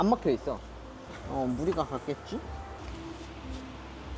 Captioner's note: vacuum pump